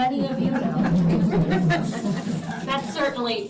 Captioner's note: laughter